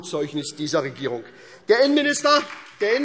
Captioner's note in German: Beifall SPD